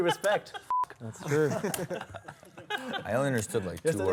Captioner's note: laughter